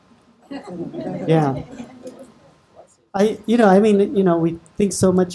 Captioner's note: audience laughing